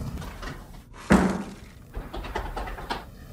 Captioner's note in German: Poltern von draußen